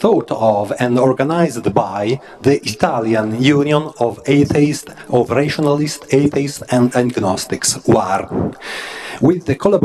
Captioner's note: Italian